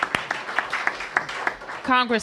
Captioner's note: applause